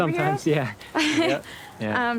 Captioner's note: Zoe laughs